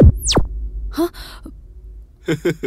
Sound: gasps; laughs

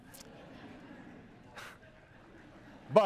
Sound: chuckles; laughter

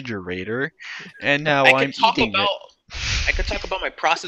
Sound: grunts

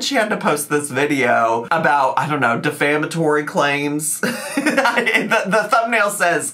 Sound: laughs

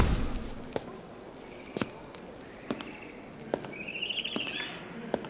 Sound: footsteps approaching

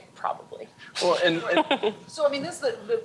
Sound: chuckles

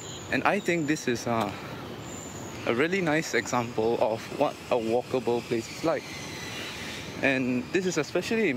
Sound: construction noice in the background

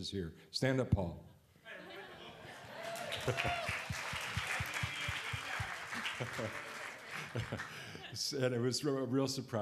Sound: laughter and applause

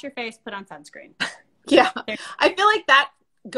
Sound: laughs

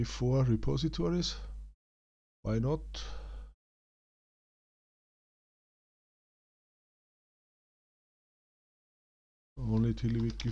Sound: silence

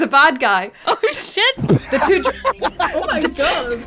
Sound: laughter

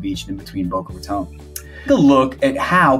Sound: mouse clicking

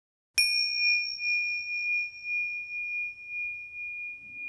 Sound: bell dinging

